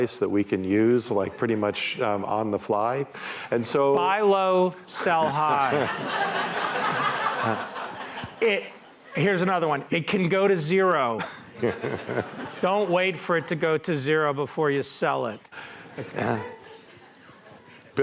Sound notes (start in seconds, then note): 5.0 laughter